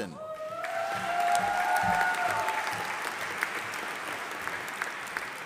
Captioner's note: audience applauding